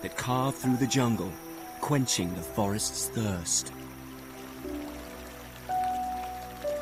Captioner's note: light music; water trickling